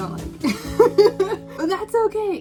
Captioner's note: laughs